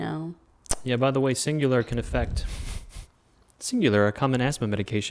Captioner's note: snickers